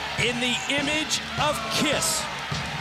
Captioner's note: crowd cheering